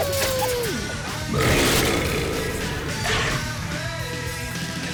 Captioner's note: burrrp